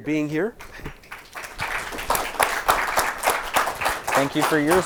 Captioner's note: audience applauding